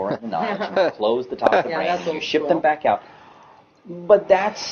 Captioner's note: small talks and laughs